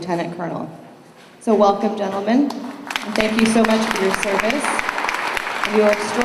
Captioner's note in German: Beifall